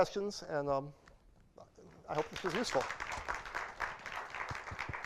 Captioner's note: applause